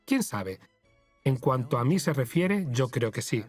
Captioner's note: voiceover